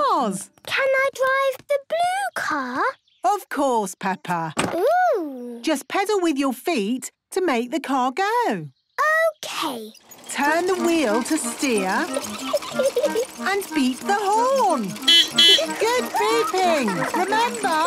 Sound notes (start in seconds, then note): 11.7 giggling; 14.5 beeping